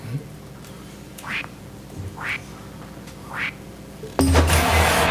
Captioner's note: all laugh; air whooshing; upbeat music